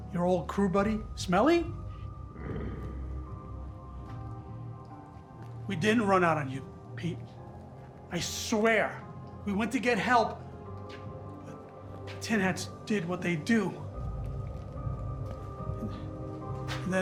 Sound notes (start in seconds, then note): 2.3 Pete growls; 14.9 eerie music continues